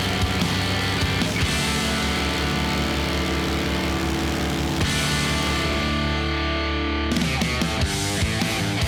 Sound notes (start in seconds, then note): 0.0 fan blowing; 0.1 rock music